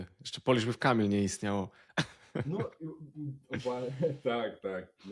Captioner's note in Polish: śmiech